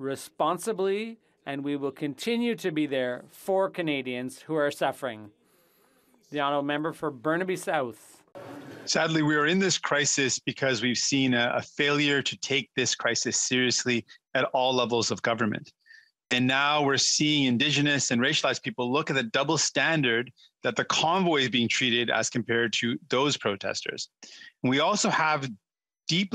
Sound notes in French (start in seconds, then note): 14.3 voix de l'interprète